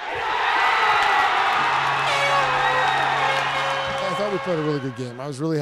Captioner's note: cheering